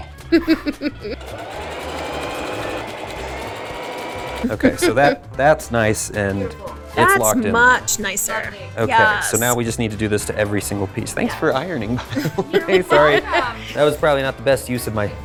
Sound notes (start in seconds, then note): 0.2 laughing; 1.1 sewing machine whirring; 12.0 laughing